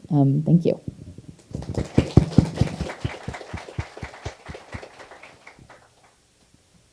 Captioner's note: applause